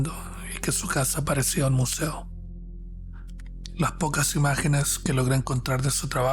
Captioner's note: narrator speaking Spanish